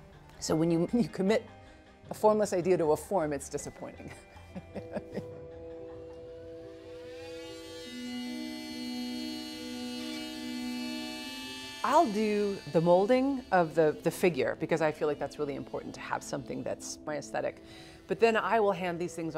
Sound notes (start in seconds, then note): 4.4 chuckles; 8.6 drill buzzing